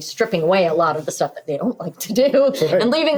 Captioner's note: laughing